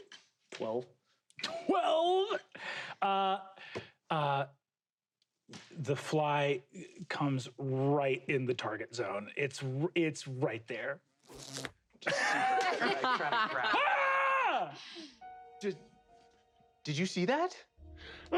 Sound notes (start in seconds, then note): 11.2 fly buzzing; 13.6 screams